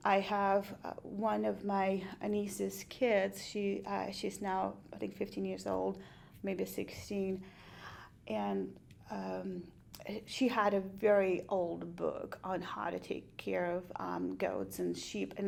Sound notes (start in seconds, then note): none